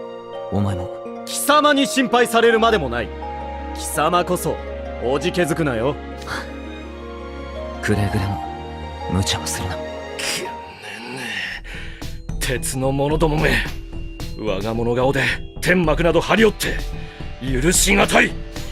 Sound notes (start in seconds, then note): 7.1 sigh